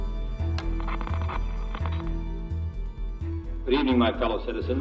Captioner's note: static crackling